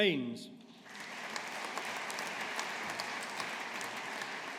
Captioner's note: audience applauding